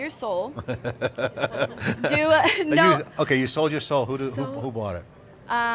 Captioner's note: laughs